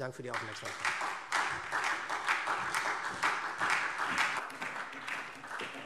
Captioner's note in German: Beifall SPD